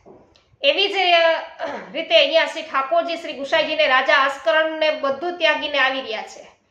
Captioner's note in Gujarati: ગળું સાફ કરે છે